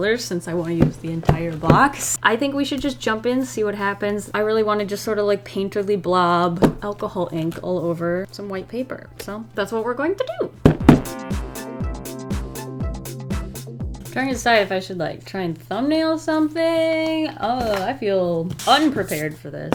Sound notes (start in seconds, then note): 10.6 tap, tap